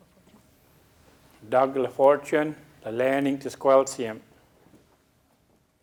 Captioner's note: speaking a local Indigenous language